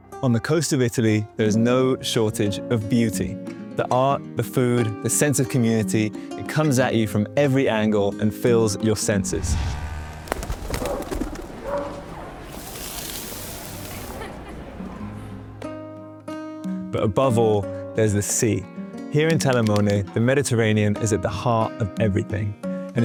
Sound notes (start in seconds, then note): 0.0 pleasant music; 9.4 engine purring; 11.6 dog barking; 12.4 meat sizzling; 14.3 pleasant music